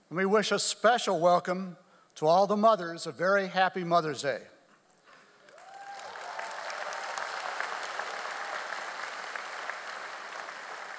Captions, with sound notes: we wish a special welcome to all the mothers a very happy Mother's Day. (audience applauds)